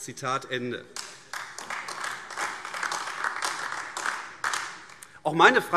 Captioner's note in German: Beifall AfD